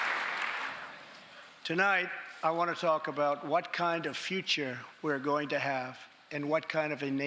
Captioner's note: applause